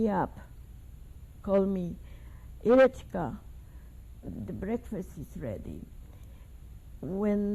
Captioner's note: russian